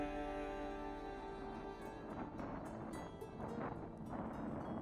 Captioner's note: wind whooshing